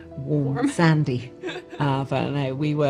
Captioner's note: laughs